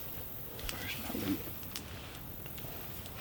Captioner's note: Botanist #2, whispering